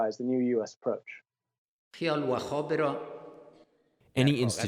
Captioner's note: through translator